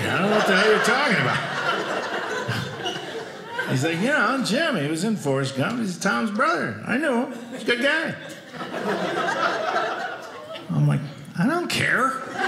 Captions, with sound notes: I don't know what the hell you're talking about. (audience laughing) He's like, "You know? Jim. "He was in Forrest Gump, "he's Tom's brother. I knew him. "He was a good guy." I'm like, I don't care,